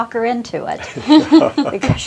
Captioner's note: chuckles